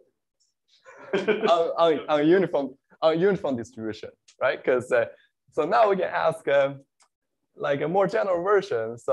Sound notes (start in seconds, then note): 0.9 laughter